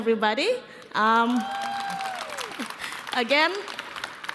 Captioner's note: applause